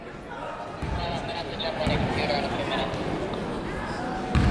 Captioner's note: yelling